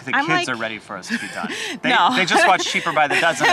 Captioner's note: chuckles